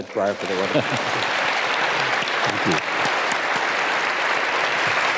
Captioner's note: audience applauding